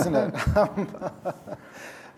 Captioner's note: laughter